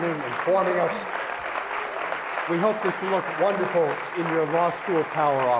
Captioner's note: applause